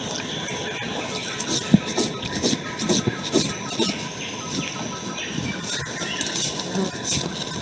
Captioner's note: grooming sounds